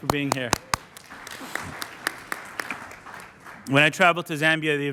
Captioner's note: applause